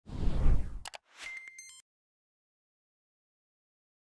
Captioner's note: air whooshing